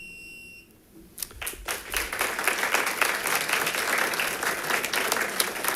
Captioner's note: audience applauding